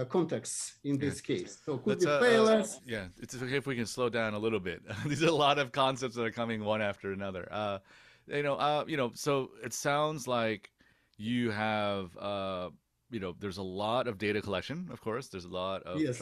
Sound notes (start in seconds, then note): 4.6 laughs